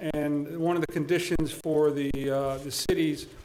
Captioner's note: none